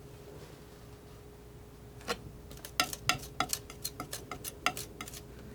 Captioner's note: scratching